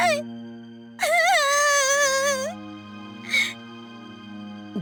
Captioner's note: sob